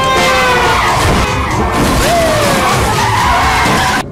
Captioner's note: car crashes